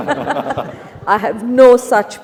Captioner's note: Nandita laughing